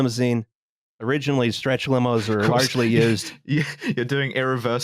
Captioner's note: laughing